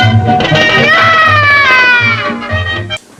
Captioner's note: yells